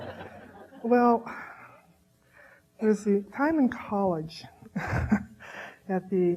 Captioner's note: audience laughing; laughing